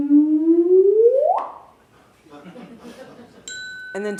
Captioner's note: electronic humming; chuckling; ding